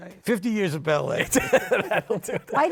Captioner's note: laughing